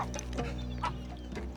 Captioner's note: groans